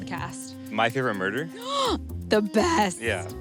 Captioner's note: gasps